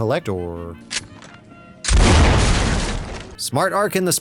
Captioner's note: gunshot